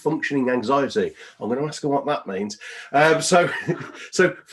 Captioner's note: laughs